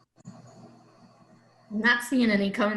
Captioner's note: silence